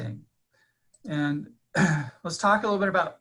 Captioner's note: clearing throat